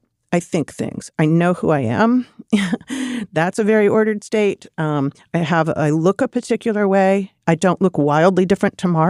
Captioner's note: laughs